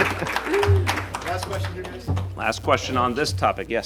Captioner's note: applause